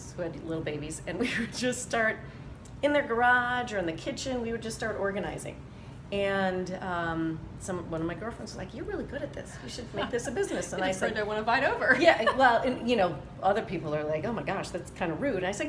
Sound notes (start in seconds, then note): 11.8 laughing